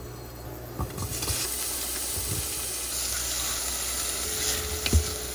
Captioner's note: food sizzling